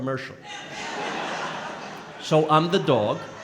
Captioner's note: crowd laughing